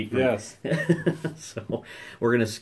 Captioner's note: laughing